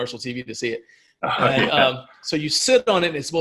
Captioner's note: laughing